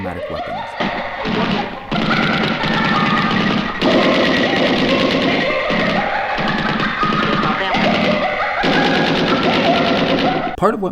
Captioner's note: gunshots